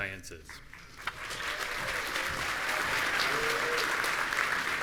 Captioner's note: audience applauding